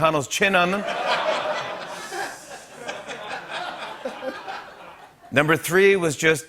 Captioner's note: laughter